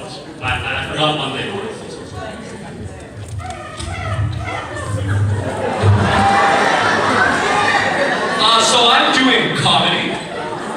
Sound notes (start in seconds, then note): 4.4 one kid laughing louder than everyone else; 5.1 laugh track